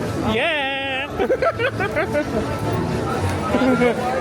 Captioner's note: laughs